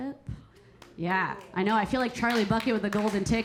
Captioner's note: audience applauding